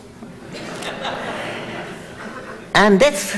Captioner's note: audience laughs